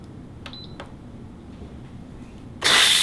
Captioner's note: cooker beeping; steam hissing